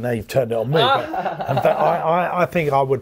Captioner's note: laughs